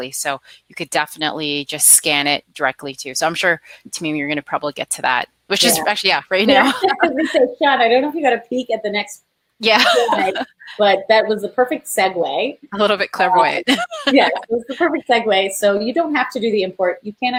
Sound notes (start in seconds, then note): 6.4 laughing; 9.7 laughs